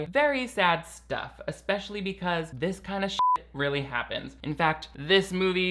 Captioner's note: beep